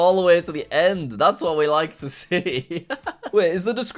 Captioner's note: laughs